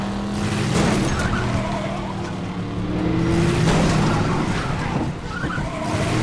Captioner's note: gun firing; vehicles thudding; tires squealing